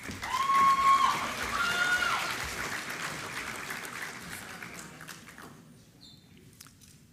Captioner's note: applause